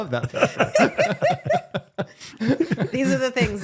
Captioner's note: all laughing